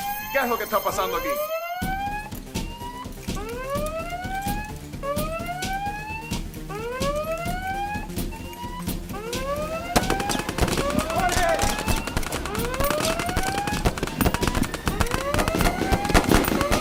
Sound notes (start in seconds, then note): 9.3 bullets flying and ricocheting; 9.8 sounds of extreme gunplay